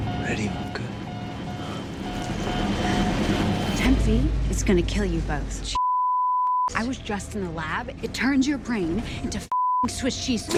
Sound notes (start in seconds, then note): 0.0 dramatic music; 5.7 beep; 9.5 beep